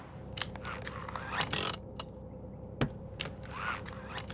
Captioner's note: seat belt clicks, handbrake creaks